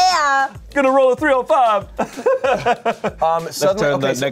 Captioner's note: laughs